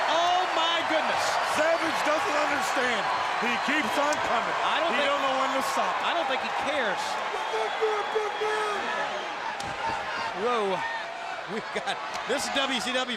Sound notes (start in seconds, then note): 8.1 crowd chatter